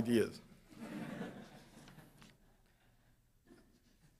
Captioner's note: audience laughs